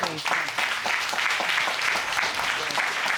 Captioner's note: audience applauding